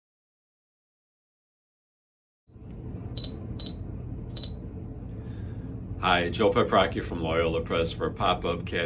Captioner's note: beeping